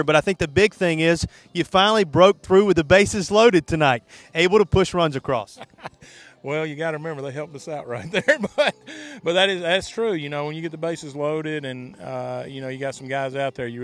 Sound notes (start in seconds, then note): 7.9 laughing